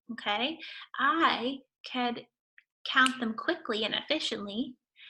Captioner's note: snaps finger